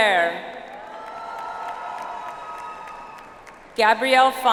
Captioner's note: audience applauds